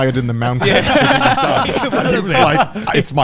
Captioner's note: laughs loudly